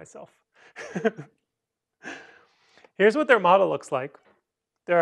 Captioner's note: laughter